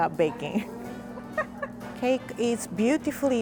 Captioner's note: laughs